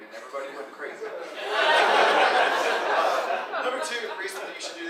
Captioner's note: audience laughing